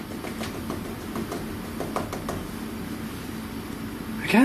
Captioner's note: rapid tapping